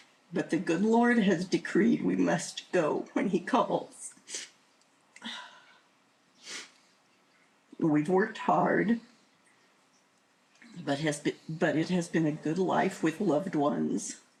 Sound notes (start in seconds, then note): 6.4 sniffling